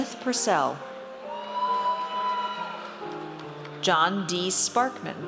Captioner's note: audience cheers